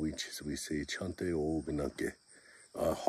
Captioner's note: native Lakota Language